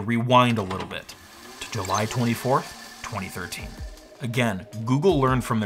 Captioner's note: VCR rewinding